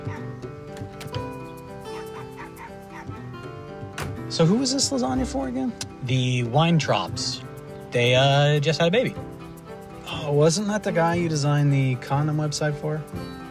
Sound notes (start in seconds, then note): 3.9 car door closes